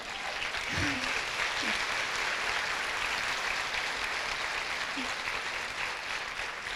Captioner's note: applause